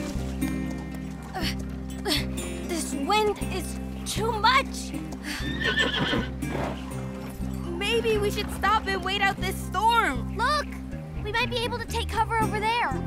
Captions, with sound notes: Oh, oh. This wind is too much. [whinny] Maybe we should stop and wait out this storm. Look, we might be able to take cover over there.